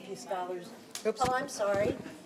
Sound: audience chattering

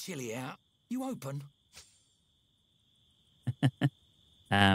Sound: laughs

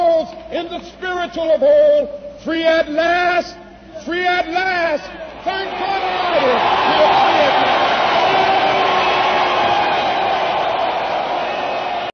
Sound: applause

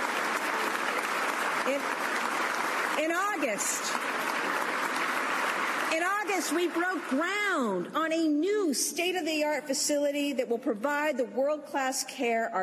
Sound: cheers and applause

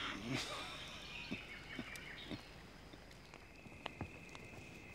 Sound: chuckling

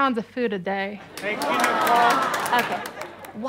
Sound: kids clapping

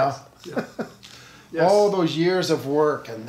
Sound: laughs

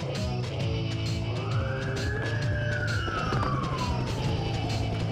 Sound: sirens

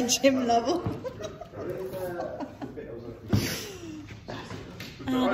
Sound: chuckles

